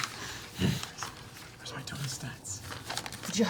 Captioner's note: whispers